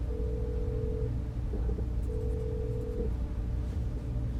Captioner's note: phone line ringing